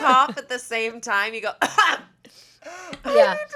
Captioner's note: coughs